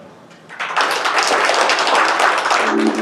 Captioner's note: applause